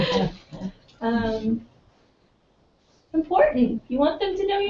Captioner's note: laugh